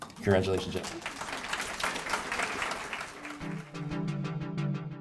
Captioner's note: audience clapping